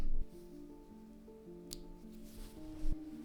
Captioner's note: the softest of snips